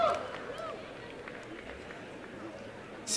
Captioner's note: applause and cheering